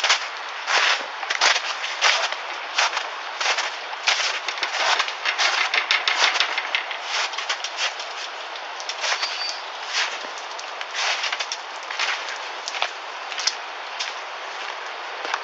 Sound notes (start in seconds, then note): none